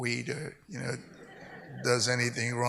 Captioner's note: audience laughs